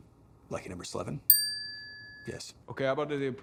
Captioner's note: check mark dings